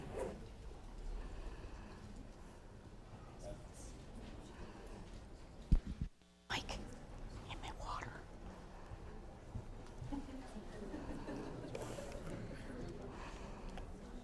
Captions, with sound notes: >> (whispering) MIKE, GET ME A WATER? (audience laughing)